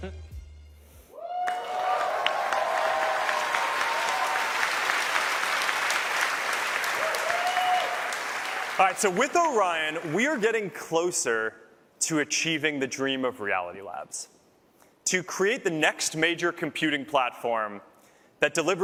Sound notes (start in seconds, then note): 5.8 cheers and applause